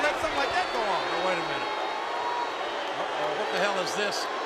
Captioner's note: crowd boos